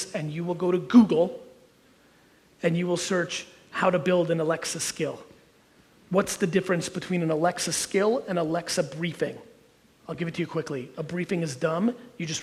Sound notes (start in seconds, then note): none